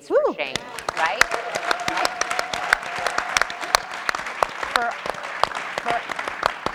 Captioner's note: audience and panelists applauding